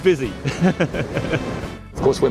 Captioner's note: laughs